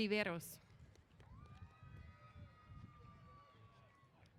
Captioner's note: cheers